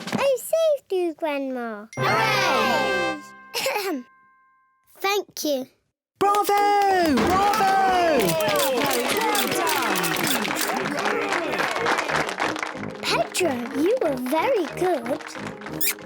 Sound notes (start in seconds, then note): 2.4 all cheer; 3.4 clears throat; 7.2 all cheer, applaud